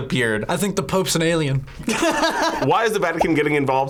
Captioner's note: laughs